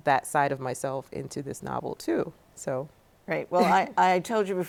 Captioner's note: chuckles